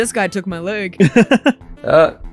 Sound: laughs

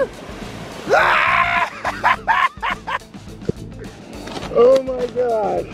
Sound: yells and laughs

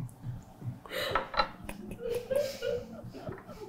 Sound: crew laughing

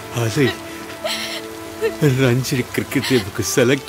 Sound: heavy rain & thunders sound

